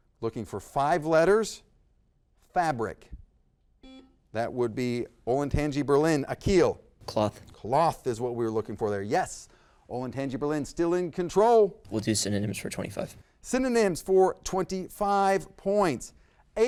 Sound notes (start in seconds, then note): 4.0 buzzer buzzes